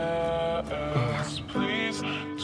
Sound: sighs

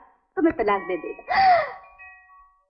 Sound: gasps

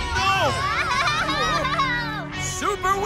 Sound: screaming

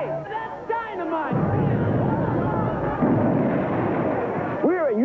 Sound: explosion roaring

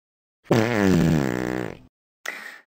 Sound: farts

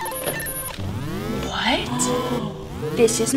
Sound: detector alarm blaring

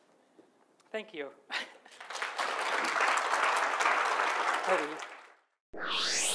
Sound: audience applauds

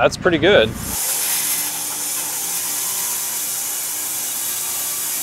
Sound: saw whirring

